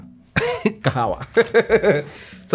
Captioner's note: laughing